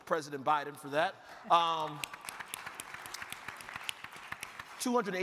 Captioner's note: crowd clapping